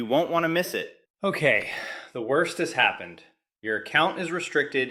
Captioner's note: exhales sharply